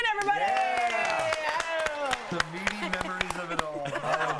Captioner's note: laughter